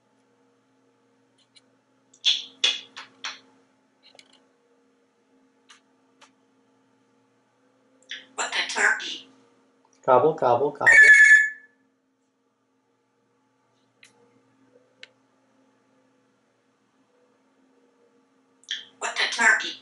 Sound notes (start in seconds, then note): 2.1 clicking sounds; 10.9 telephone sound